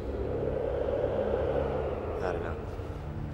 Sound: wind whistling

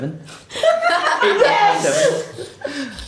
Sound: laughter

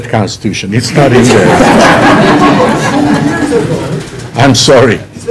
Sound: laughter

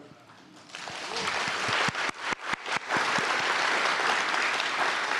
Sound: audience applauding

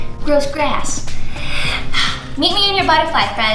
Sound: heavily breathing

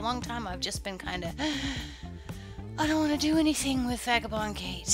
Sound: sigh

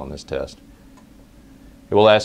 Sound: pause

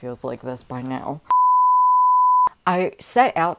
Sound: beep

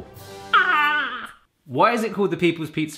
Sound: screams excitedly

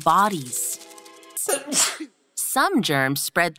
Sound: sneezes

